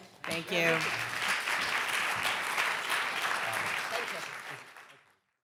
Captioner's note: audience applauding